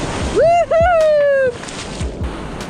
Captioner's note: cheers